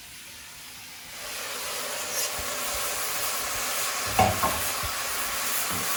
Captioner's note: sauce sizzles in pan